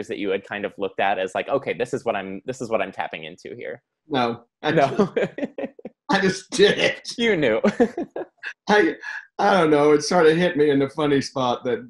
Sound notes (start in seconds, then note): 4.7 laughs